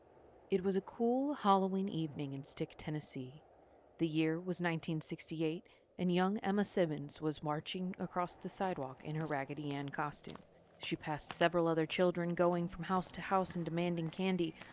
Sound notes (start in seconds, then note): 10.3 footsteps